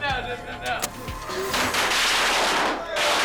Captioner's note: match scratches; fire whooshes; explosion crackling and popping